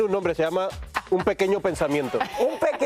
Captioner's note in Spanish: ríen